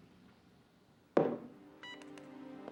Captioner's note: thuds